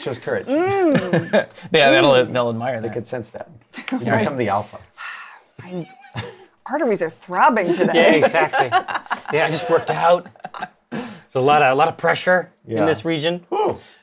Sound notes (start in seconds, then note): 0.7 laughs; 5.0 sigh; 7.7 laughs